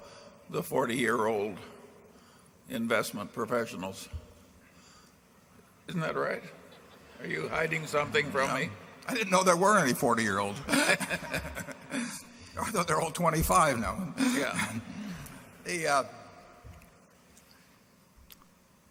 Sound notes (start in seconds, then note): 6.7 laughter; 10.6 laughs